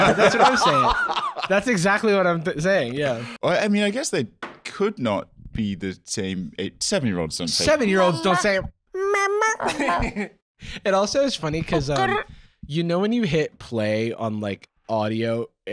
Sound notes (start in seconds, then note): 9.3 in baby voice